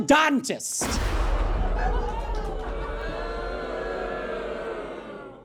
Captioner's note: thunder clap; audience laughs, then boos